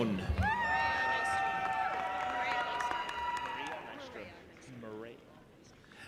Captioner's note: audience applauding and cheering